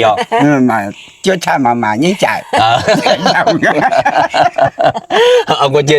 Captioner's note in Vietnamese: tiếng cười